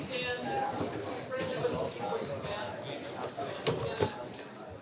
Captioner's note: students chattering